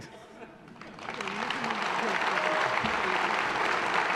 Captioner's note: applause